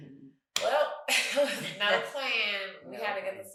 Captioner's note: chuckles